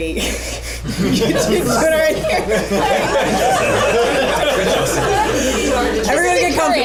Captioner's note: laughter